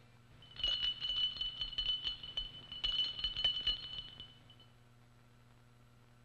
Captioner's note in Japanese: 氷の音